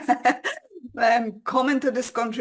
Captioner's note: laughing